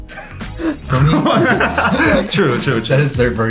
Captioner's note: laughing